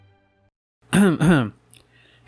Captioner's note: ehem ehem